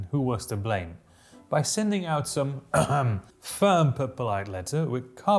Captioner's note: ahem